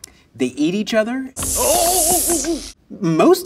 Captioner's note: spider hissing